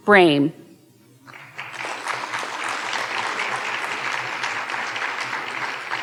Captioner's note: audience applauding